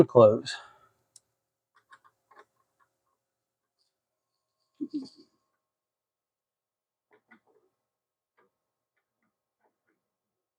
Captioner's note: clicking